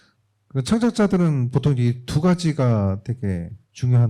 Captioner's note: speaking korean